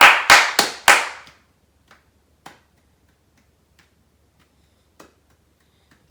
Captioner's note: tapping and clapping softly